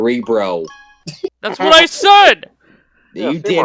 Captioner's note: chuckle